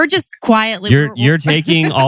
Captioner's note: laughs